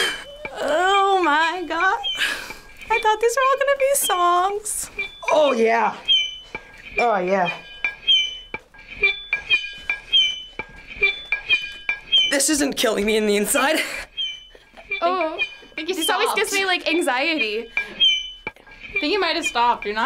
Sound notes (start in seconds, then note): 5.9 knife scraping